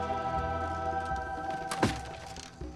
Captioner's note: teeter-totter thuds